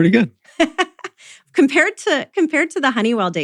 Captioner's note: laughs